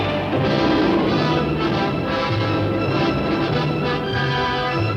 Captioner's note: cannon blasts